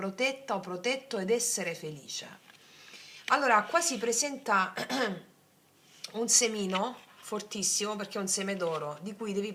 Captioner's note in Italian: schiarire la voce